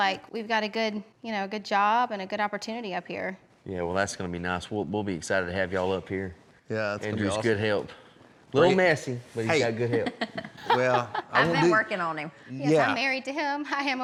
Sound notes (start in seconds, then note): 9.9 laughing